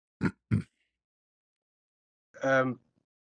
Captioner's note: berdehem